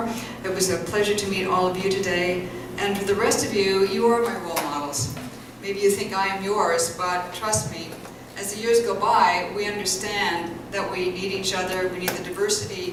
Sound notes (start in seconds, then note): none